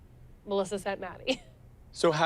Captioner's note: laughs